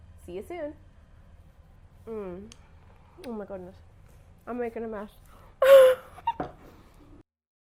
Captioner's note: laughing